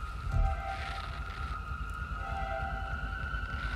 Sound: static

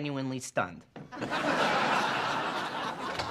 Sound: laughter

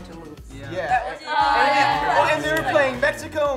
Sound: chattering

